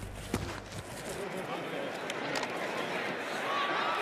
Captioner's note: shuffling